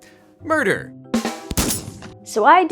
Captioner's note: rimshot; gunshot